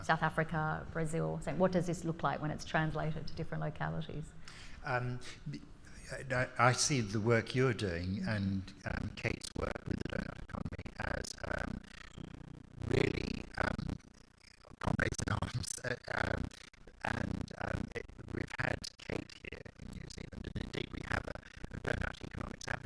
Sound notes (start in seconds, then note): 14.2 speaking faintly; 21.7 speaking faintly